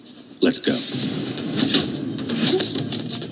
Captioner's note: fight sounds, chains, strikes, kicks, bones cracking